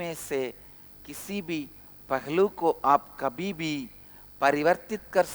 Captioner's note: hindi